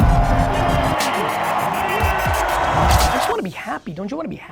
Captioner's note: crowd cheering